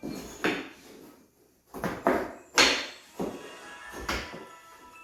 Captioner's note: wood banging